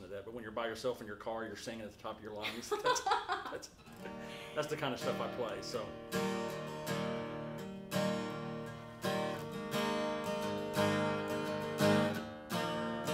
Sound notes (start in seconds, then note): 2.4 laughing; 6.3 acoustic guitar music